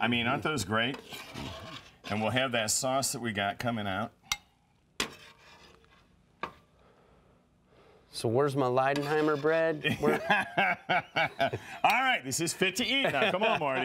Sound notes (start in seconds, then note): 9.9 laugh